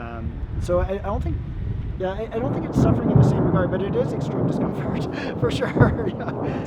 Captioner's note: sound of thunder